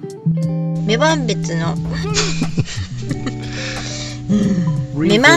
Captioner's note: laughs